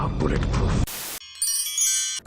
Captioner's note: chimes